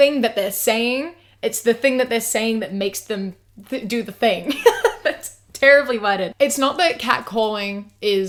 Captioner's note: laughs